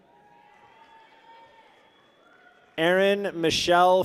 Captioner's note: people cheer